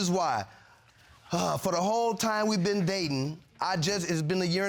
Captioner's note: sighs